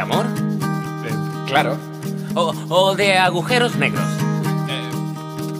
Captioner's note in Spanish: none